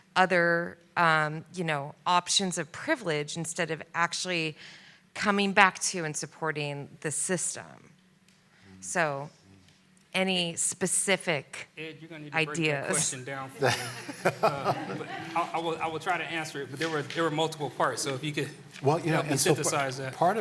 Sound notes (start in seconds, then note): 13.5 laughter